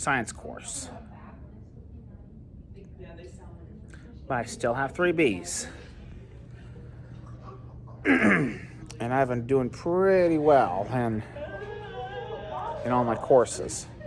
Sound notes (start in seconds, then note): 8.0 clears throat